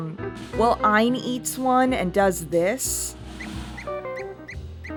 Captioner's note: squeaking